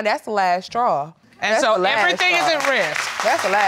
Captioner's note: crowd clapping